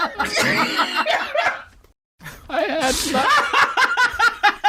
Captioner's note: roaring laughter